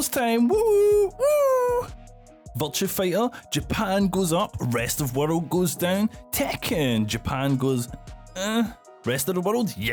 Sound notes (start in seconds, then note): 4.2 happy noises